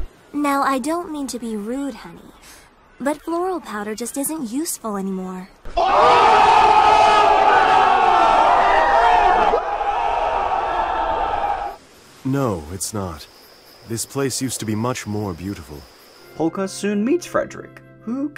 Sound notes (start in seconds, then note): 5.7 shocked, excited yelling